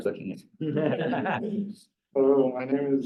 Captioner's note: laughter